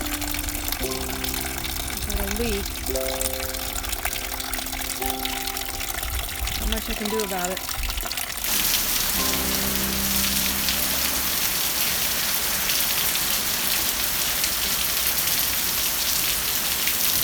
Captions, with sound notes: There's a leak. Not much I can do about it. (piano ends) (rain splashing)